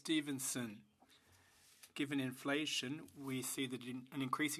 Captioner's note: speaking French